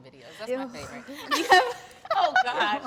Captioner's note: all laugh